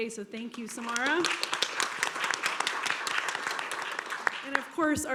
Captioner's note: applause